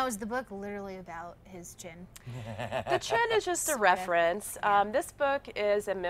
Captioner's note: laughter